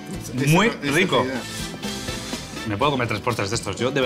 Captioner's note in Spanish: resopla